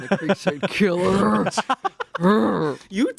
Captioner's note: laughs